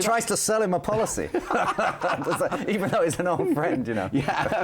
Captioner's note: both laughing